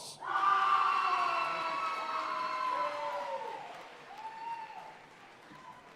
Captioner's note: audience cheering and applauding